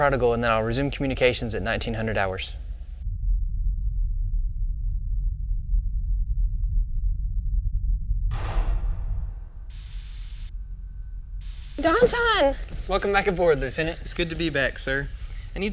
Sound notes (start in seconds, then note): 8.3 metal docking; 10.2 door hisses